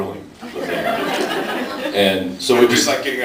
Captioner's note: laughs